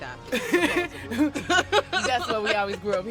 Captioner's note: laughs